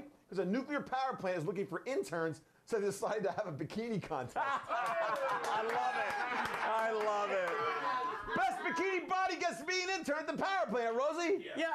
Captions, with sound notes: BECAUSE A NUCLEAR POWER PLANT IS LOOKING FOR INTERNS, SO THEY DECIDED TO HAVE A BIKINI CONTEST. [Laughter] [Applause] BEST BIKINI BODY GETS TO BE AN INTERN AT THE POWER PLANT, ROSIE.